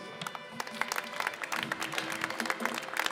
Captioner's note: applause